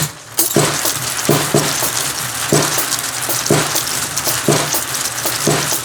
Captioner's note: louder MMX sounds; marbles rolling